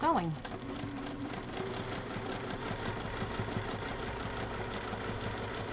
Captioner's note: sewing machine churning